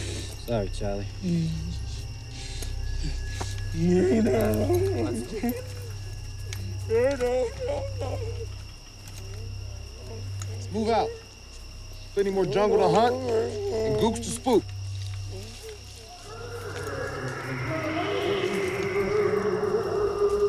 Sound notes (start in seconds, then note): 3.6 Dao moans; 7.4 weakly chants; 16.1 eerie Ghost moaning tape effects